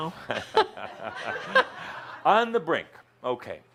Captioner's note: Adamus chuckles